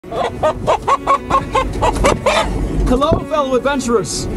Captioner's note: chicken clucking